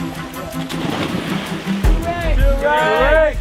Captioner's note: water splashing